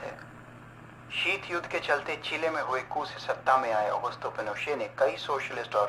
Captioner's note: radio